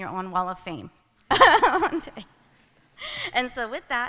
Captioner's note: laughs